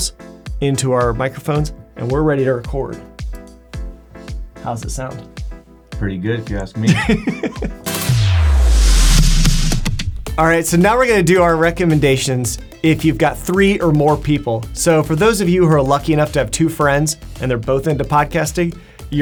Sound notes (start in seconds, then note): 6.8 laughing; 8.1 upbeat music